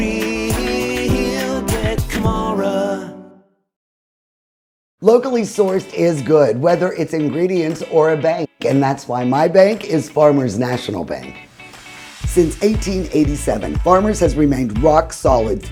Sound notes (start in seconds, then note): 6.6 upbeat music; 11.5 graphics whooshing